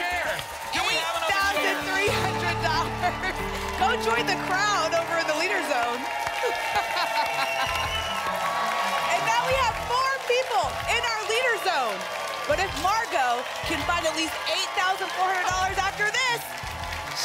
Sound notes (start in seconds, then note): 6.4 laughs; 7.9 applause and cheering